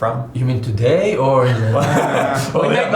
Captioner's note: laughing